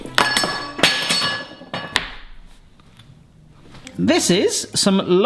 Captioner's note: grater clatters on floor